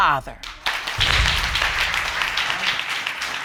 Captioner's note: audience clapping